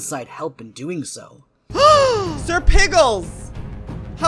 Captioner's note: gasps